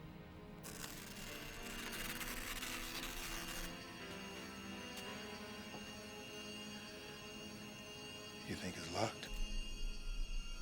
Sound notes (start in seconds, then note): 0.6 paper Tearing